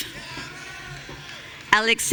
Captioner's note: audience cheering